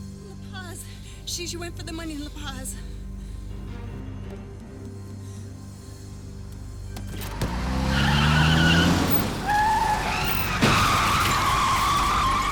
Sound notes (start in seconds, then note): 3.5 suspenseful music; 7.1 tires squealing